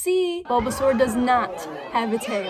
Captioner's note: crowd gasp